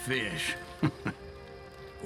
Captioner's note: laughs